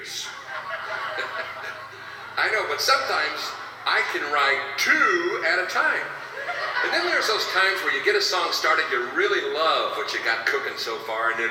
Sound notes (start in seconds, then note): 0.0 laughs; 0.2 audience laughing; 6.2 audience laughing